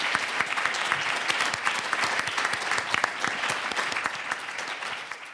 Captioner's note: audience applauds